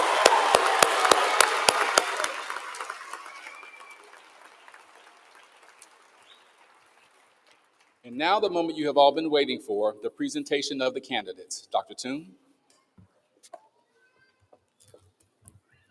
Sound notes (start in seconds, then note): 3.6 applause